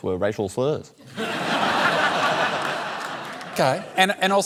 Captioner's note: laughter